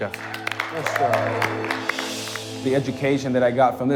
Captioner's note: cheers and applause